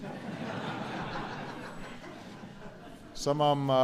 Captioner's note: laughter